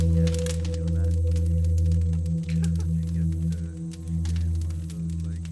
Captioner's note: distant chatter